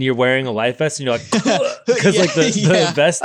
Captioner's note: gagging